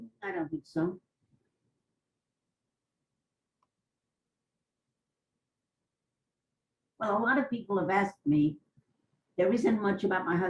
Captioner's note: pauses for 6 seconds